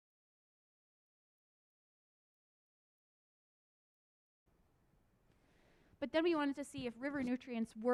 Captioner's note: audio lost